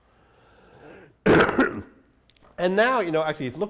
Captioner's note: coughs